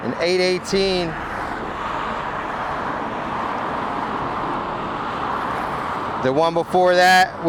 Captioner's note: traffic droning; suspenseful music continues